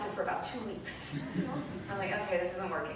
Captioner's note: light laughter